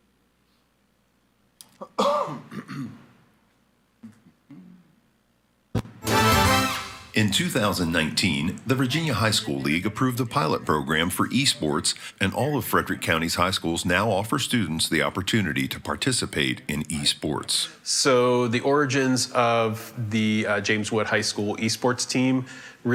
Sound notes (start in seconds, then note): 1.7 coughs; 5.8 upbeat music